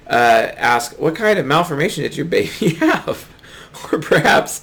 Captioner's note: laughs